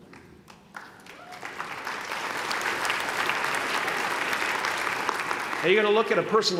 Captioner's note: applause